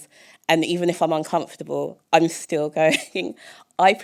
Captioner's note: chuckle